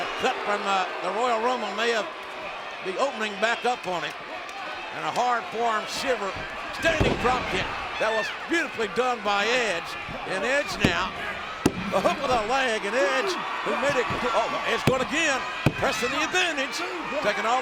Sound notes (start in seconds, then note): 5.9 body thudding; 10.8 hands thudding